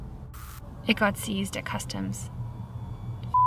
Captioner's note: static crackles